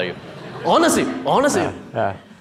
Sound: audience murmuring

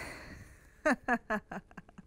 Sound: laughs

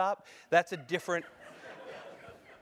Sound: laugh

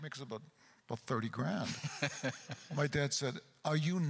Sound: chuckles

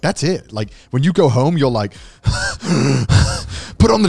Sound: gasps

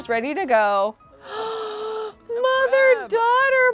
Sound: gasping

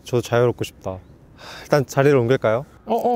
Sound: sigh

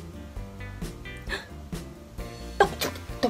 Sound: gasps

